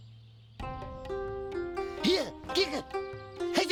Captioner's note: grunting